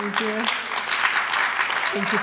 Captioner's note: applause